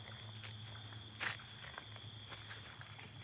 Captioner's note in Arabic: خطوات على العشب